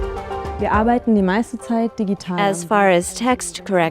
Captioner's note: non-english speech